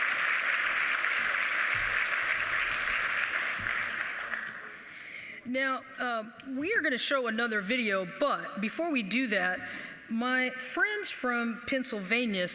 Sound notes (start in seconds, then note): 0.0 applause